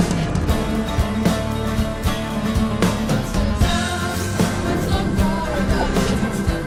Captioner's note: deafening roar